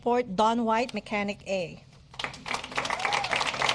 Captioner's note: applause